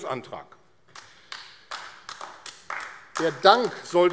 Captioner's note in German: Beifall AfD